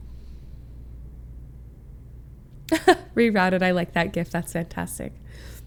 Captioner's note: laughs